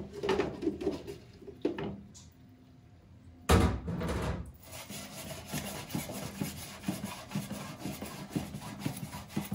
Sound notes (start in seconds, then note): 0.2 lid clatters; 3.4 bowl thuds; 4.6 pan scratches